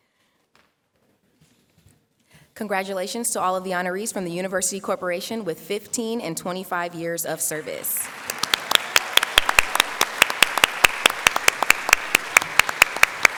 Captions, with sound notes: to all of the honorees from the University corporation with 15 and 25 years of service. [ Applause ]